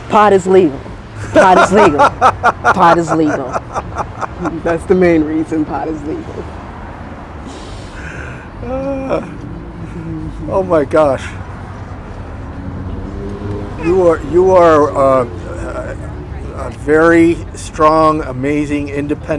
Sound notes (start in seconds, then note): 3.8 interviewer laughing